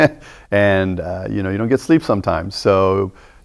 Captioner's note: chuckling